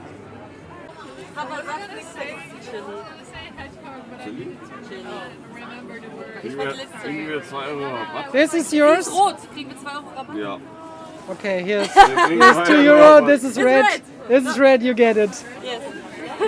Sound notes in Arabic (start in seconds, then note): 1.2 الحشد الثرثرة; 6.8 يتحدث بلغة أجنبية; 10.1 يتحدث بلغة أجنبية